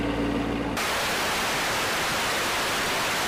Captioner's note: static